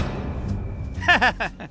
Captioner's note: laughing